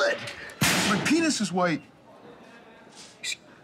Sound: slams

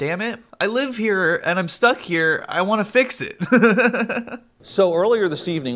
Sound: laughs

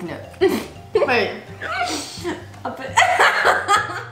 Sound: laughs

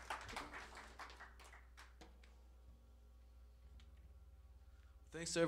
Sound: applause

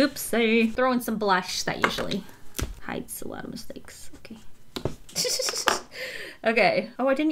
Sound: giggles

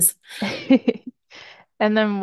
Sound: laughing

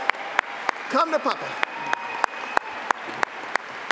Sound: applause

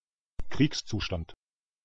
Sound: fast Pronunciation

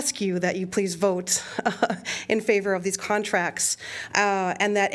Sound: laughter

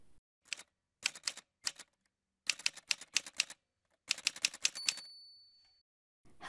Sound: typewriter sounds

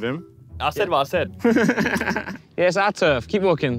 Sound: Tobi laughs

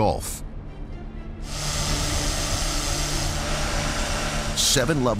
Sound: machinery buzzing

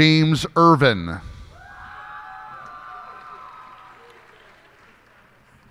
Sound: cheers and applause

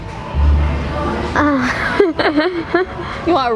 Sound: laughs

